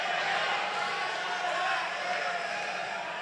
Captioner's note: applause